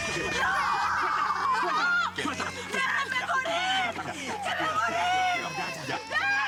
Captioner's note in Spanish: Gritos